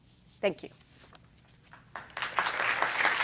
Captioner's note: clapping